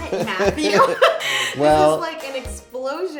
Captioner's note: laughs